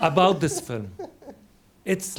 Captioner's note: laughing